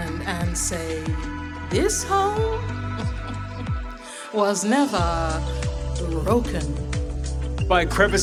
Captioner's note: laughs